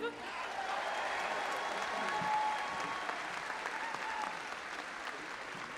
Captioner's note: audience applauding and cheering